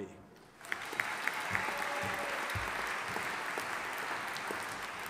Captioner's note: audience applauding